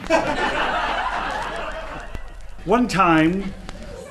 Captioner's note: audience laughs